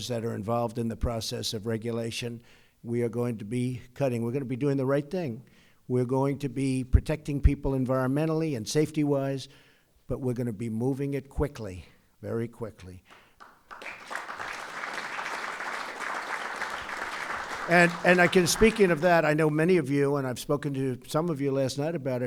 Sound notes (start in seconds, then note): 13.1 applause